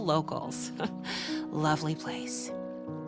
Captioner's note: chuckles